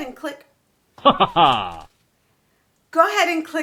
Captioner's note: naughty laughter sounds